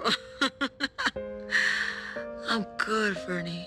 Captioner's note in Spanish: Risas